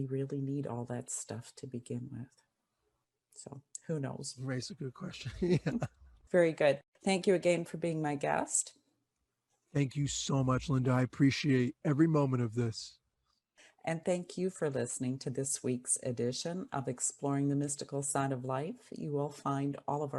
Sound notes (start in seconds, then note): 5.2 laugh